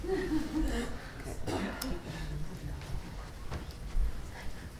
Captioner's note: people laughing